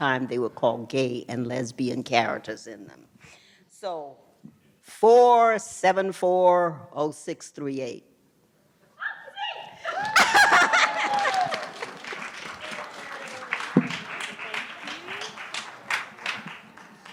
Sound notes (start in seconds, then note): 9.9 laughs